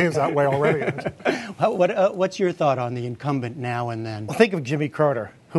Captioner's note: laughter